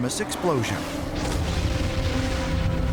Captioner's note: explosion